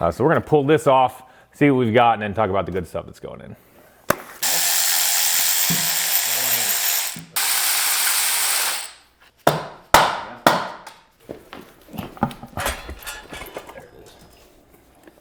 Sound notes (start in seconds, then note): 5.9 tools whirring; 9.4 hammer tapping